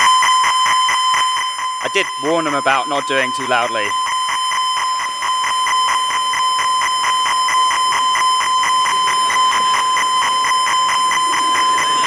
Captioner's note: rapid electronic screeching